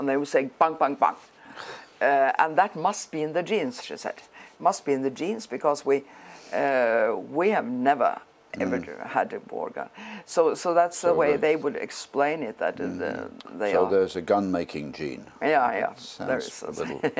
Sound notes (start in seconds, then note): 16.3 laugh